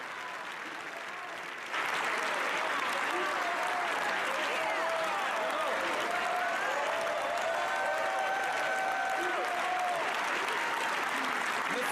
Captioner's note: applause